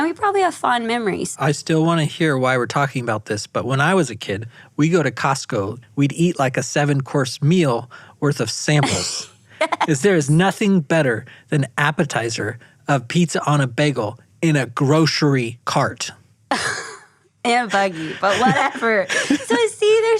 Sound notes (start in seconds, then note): 8.8 laughs; 17.8 exhales